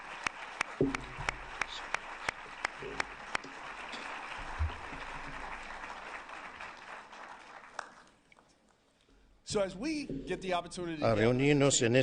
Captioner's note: applause